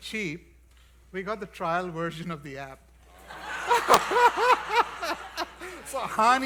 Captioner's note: laughs